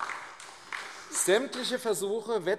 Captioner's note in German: Beifall AfD